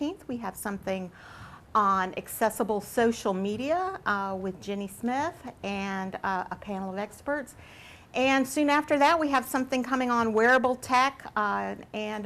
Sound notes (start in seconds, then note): none